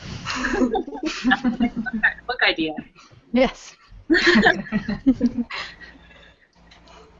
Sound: laughter; laughter

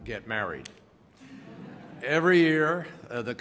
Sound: laughter

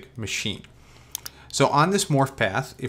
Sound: mouse clicks

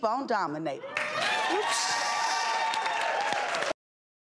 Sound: audience cheers

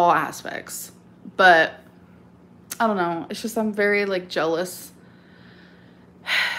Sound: sighs

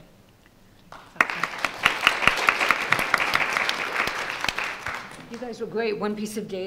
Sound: audience applauding

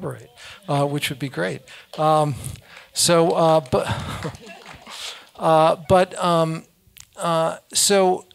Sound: applause

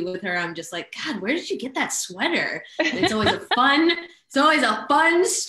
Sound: laughs

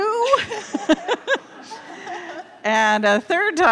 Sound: laughing

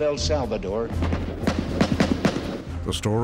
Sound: gun firing

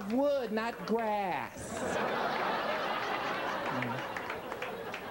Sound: audience laughing

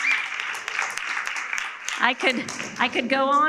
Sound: audience applauding

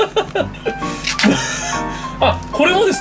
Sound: laughter

